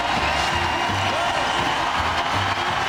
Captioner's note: crowd cheering